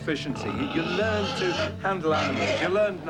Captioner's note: pig snorting loudly